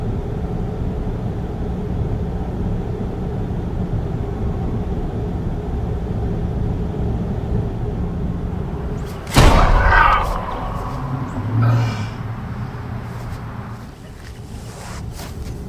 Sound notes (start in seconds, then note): 9.0 gun fires; 9.1 Killian groans